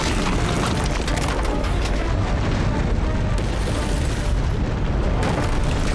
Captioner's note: gunshot